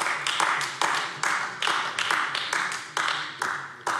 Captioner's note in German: Beifall AfD